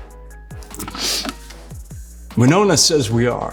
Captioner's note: sniffs